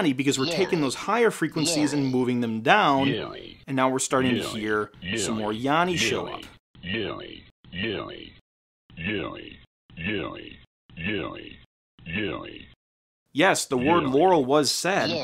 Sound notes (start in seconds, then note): 7.7 vocal recording playing